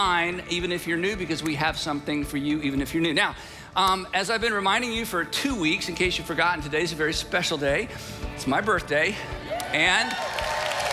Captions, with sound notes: even if you're new because we have something for you, even if you're new. Now, as I've been reminding you for two weeks, is case you've forgotten, today's a very special day. It's my birthday. (audience cheering) And,